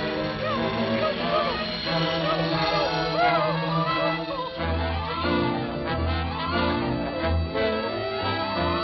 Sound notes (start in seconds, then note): 4.3 buzzing